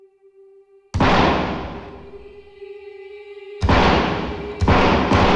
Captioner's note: gunshots booming